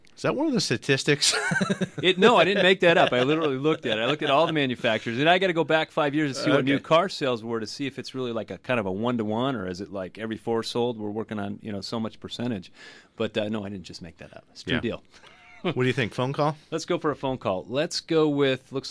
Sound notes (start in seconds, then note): 1.2 laughs; 15.2 laughs